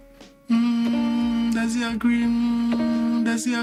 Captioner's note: humming